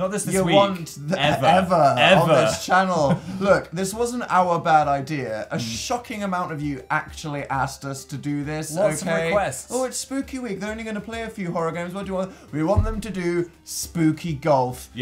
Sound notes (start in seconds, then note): 2.9 laugh